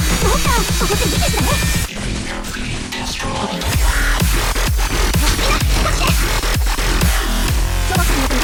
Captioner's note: haha